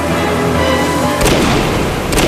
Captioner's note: gunshots